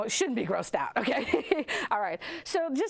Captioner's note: laughs